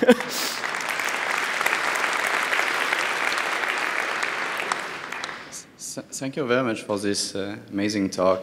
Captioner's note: applause